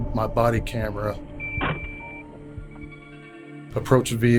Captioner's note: beeping noise